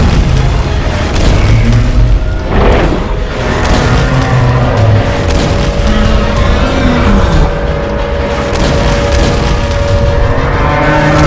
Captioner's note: Godzilla roaring with loud explosions